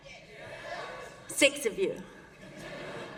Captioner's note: laughter